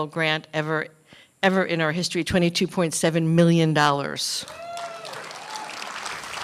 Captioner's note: applause